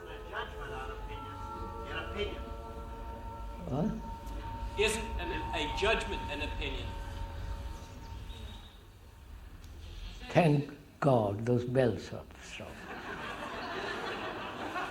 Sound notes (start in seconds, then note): 6.1 bells stop; 8.5 laughter